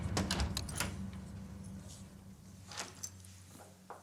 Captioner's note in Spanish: ruido al entrar